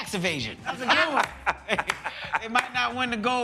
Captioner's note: laughter